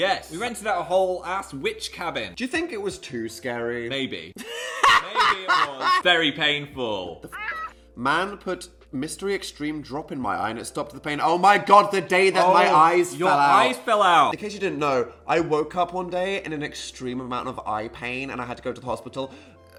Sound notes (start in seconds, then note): 7.3 squawk